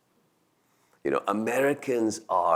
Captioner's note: none